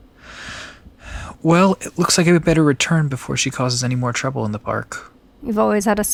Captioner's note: sigh